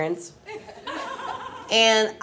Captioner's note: audience laughs